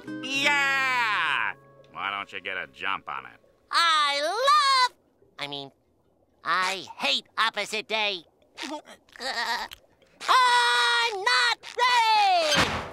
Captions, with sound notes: Yeah! Why don't you get a jump on it? I love-- I mean, I hate Opposite Day. [giggling] I'm not ready!